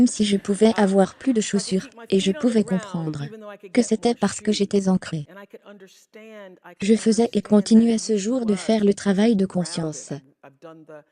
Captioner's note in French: Rires de la foule